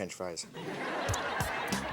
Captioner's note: audience laughs; smooth synth music